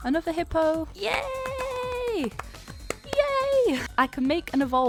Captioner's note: claps